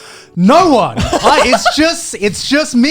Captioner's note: laughing